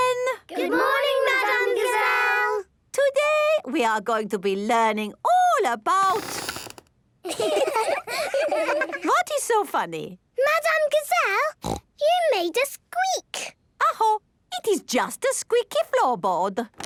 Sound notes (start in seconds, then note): 6.1 squeaks; 7.2 laughing; 16.7 squeaks